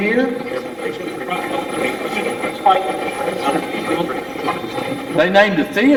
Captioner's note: Steve's Box chatters